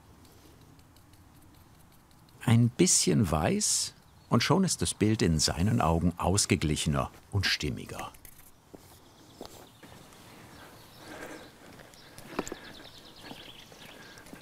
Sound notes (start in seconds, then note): 10.8 he snorts quietly